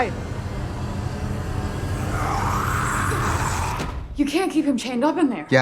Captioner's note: dark suspenseful music; zombie screeches